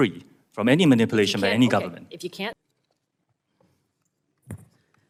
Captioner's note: Mandarin